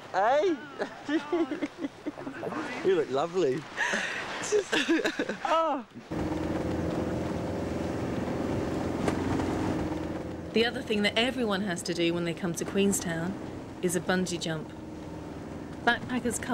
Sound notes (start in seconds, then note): 0.5 laughs